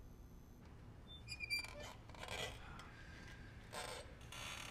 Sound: machine squeaks

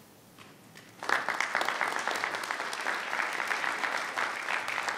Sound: everyone applauding

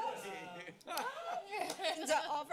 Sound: laughter

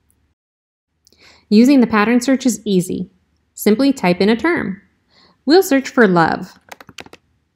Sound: typing sounds

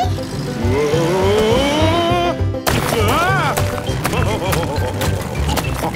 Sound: laughing

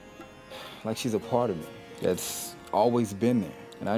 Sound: sighs

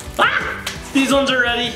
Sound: screams

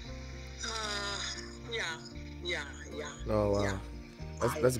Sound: sighs

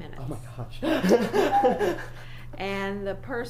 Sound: laughs loudly

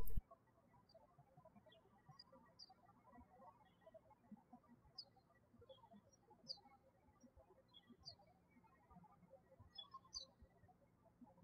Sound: birds chirping

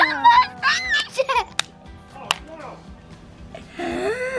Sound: giggling

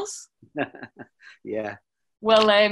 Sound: laughing

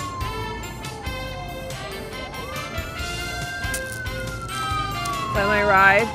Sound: police sirens

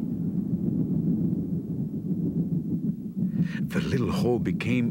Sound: earth rumbling

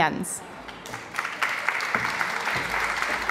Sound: applause

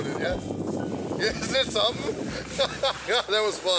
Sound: laughs

